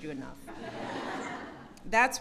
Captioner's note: laughter